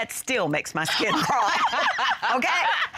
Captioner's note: laughing